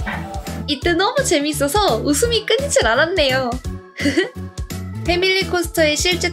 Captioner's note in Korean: 웃음소리